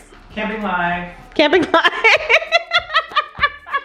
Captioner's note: laughs